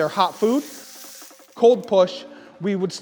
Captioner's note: food sizzling